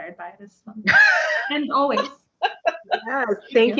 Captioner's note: laughter